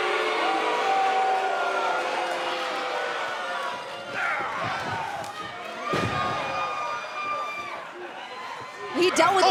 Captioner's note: cheers & boos